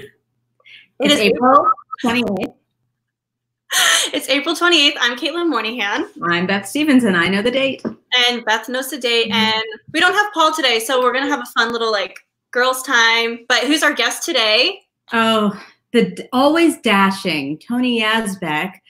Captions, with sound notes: - (laughing) It is April 28th. - It's April 28th, I am Caitlin Moynihan. - I'm Beth Stevens, I know the date. - And Beth knows the date and we don't have Paul today so we're gonna have a fun little like girl's time, but who's our guest today? - Oh, the always dashing Tony Yazbeck